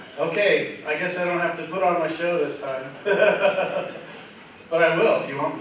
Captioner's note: laughter